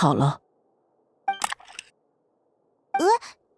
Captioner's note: click